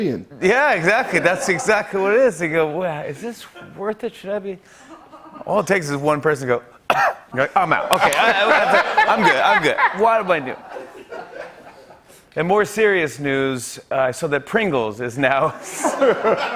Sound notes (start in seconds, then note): 6.8 coughs; 15.4 laughter